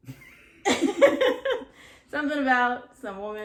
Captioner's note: laughter